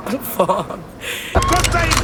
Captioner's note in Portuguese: Arma engatilha, policial grita